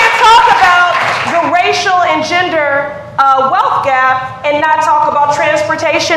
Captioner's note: applause